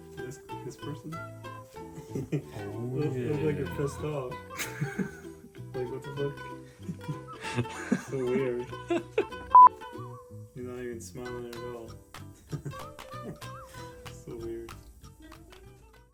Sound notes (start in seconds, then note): 4.2 laughs; 6.5 laughing continues; 9.5 beep; 12.3 laughs